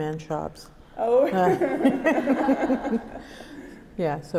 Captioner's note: both laugh